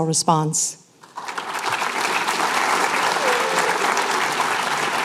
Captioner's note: applause